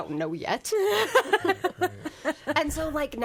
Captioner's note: laughs